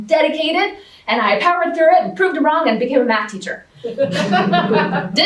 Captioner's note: laughter